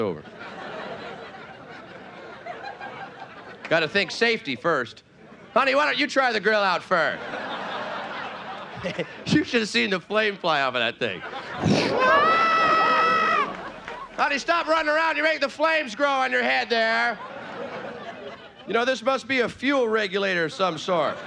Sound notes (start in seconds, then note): 0.0 audience laughing; 7.1 laughing; 7.2 audience laughing; 11.5 whooshing; 12.1 audience laughing; 12.1 yelling